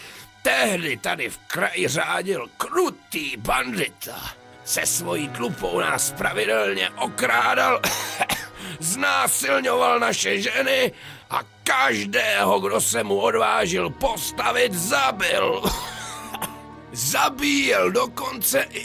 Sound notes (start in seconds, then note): 14.0 cough